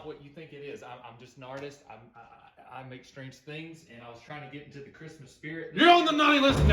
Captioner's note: stuttering